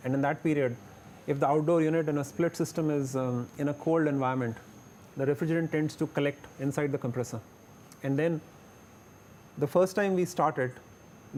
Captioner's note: high ambient